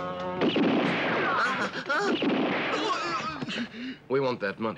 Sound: gun blasting; man panics

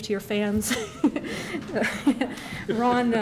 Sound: laughter

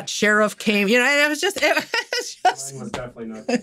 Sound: laughing

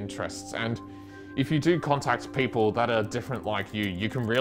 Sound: keyboard noises

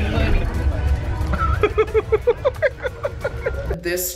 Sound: all laugh

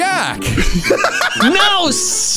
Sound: laughing

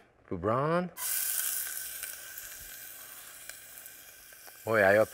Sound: sizzling

